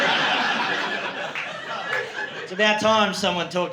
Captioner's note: laughter